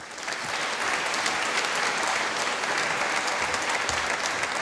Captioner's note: applause